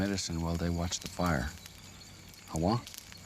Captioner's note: speaking Native language